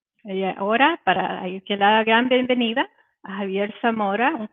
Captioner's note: speaking Spanish